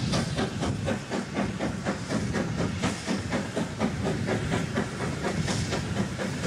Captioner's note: train passes